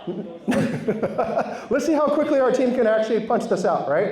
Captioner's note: laughs